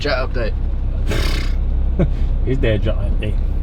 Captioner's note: blowing raspberry